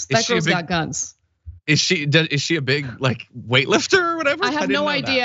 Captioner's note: laugh